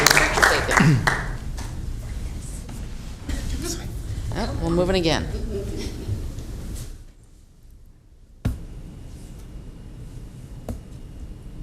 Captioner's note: applause